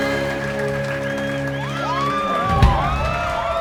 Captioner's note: crowd cheering